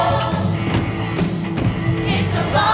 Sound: fists pounding

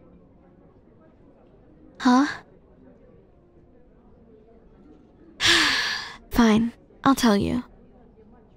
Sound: sigh

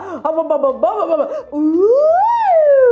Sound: crescendoing pitch

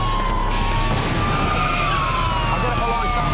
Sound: gunshot

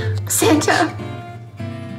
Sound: sniff

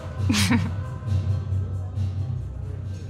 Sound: giggles; music in the background

